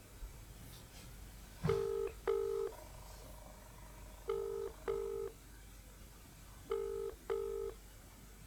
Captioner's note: phone ringng